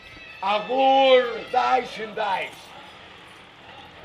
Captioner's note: speaking fake german